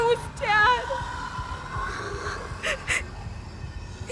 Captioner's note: low growling